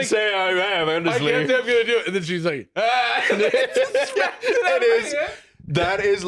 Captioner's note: both laughing